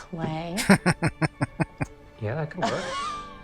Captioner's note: laughing